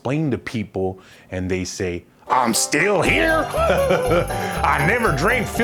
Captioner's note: in a Hillbilly accent